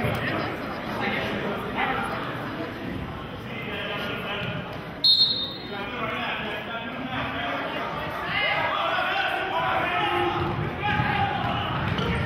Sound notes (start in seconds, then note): 5.0 whistling; 9.9 yelling